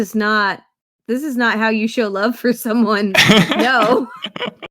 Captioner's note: laughs